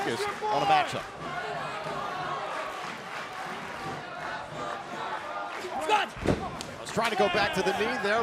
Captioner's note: crowd cheering